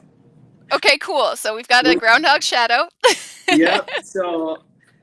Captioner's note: laughs